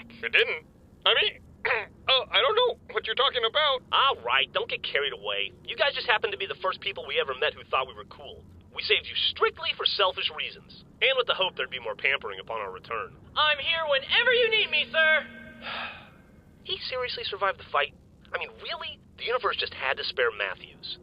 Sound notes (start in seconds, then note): 15.5 long sigh